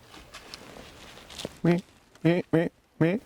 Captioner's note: grunting to stop deer